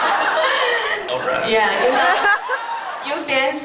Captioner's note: laughs